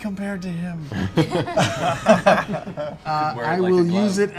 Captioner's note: laughter